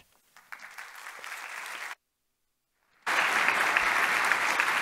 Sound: audience applauding

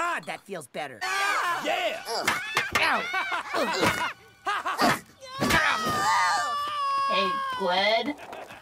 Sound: children screaming

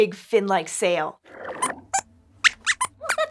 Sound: squeaks squeaks

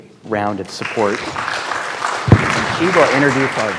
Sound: students clapping

